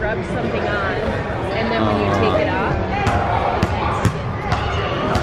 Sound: background people talking

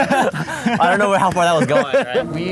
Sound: both laugh

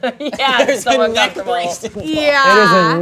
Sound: laughs

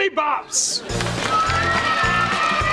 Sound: cheering

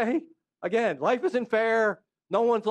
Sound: laughter

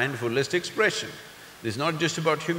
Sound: none

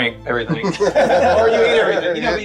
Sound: everybody laughing

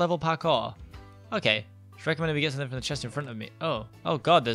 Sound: mumbles

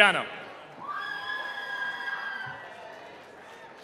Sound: cheering

